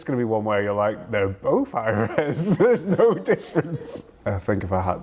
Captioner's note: laughing